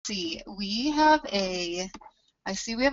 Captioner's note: voiceover